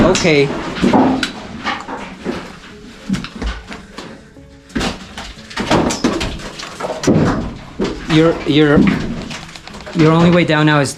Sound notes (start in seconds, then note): 0.2 rocks thump and thud; 4.4 thudding and clattering